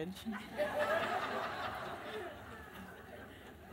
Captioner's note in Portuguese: risos